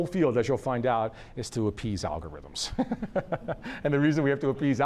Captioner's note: laughs